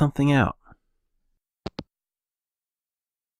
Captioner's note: hangup